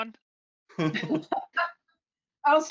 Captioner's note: laugh